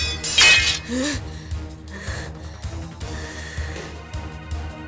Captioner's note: huff